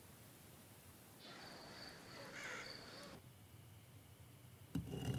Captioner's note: birds chirp and squawk; pestle scraping